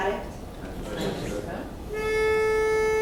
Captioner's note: all murmuring; plays a note on her pitch pipe